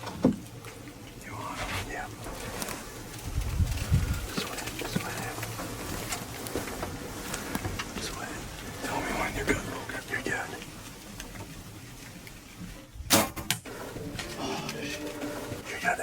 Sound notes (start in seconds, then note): 13.0 arrow fires